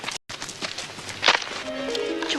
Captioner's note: twig snapping